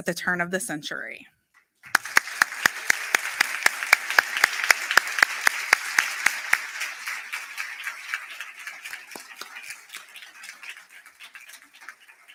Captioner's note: applause